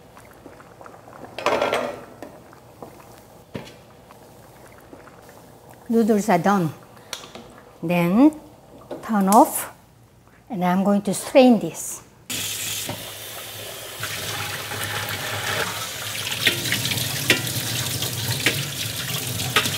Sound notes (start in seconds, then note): 0.0 water bubbling; 14.0 water splashing